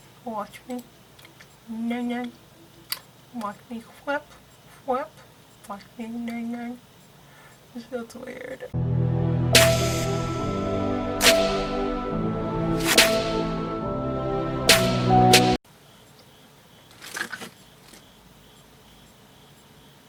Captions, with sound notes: watch me nay nay watch me fwhip fwhip watch me nay nay this this feels weird (intro music) (shuffles things on desk)